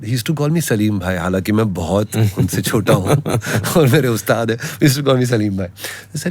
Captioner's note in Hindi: हंसी